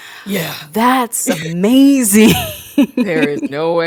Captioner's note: laughs